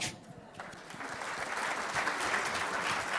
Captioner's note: applause